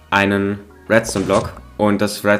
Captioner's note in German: Kolben-Geräusch